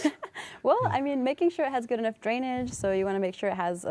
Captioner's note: laughter